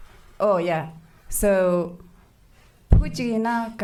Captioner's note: speaking foreign language